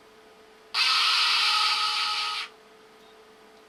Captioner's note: screams loudly